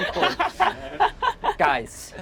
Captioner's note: group laughs